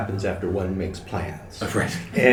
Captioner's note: laughter